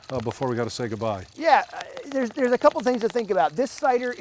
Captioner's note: cider pouring